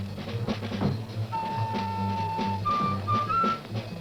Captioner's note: people chatting